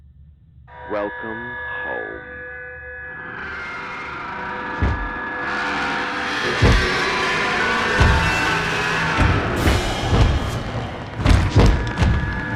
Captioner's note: footsteps